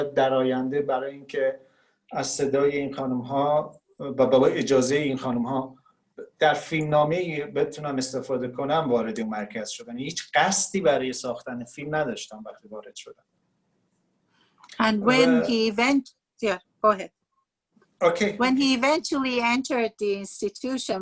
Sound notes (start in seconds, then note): 11.3 speaking Farsi